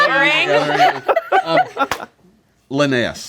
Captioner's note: laughing